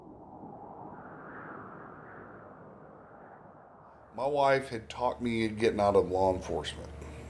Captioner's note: wind